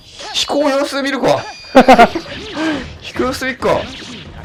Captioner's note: laughs